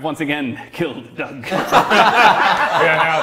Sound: laughing and hooting

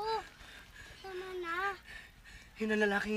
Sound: breathing heavily

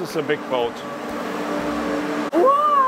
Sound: machinery whirring

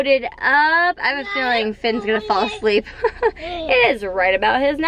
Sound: chuckles

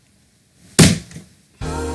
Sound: head slam

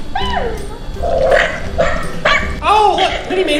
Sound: dog barking

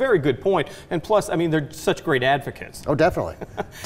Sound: chuckling

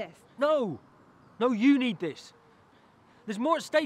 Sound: none

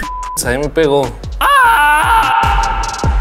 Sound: Zellsis screams

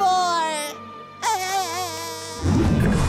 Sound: crying

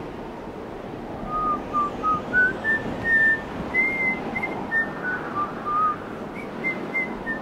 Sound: wind blowing; whistling

